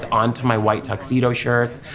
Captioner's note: none